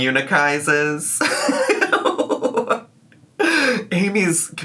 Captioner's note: laughs